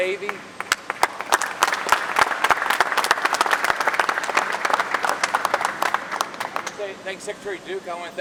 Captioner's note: applause